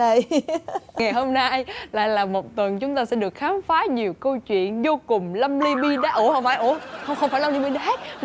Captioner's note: laughing